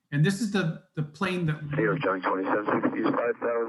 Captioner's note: men chattering